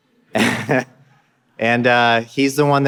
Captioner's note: laughing